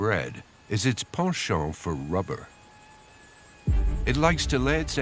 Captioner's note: mosquito buzzing